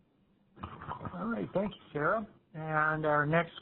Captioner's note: voiceover